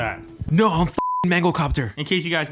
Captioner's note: beep